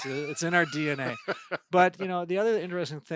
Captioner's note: laughing